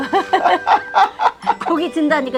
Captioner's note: both laughing